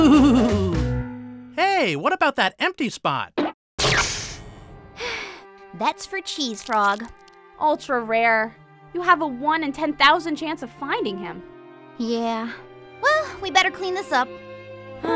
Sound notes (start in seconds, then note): 0.0 angelic harp music; 5.0 sighs; 14.9 both girls sigh